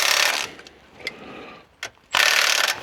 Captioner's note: metal clanking